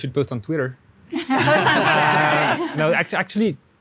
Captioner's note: laughing